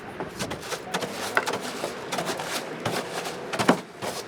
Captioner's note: scrub brush scraping